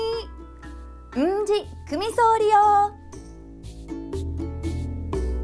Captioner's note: in Okinawan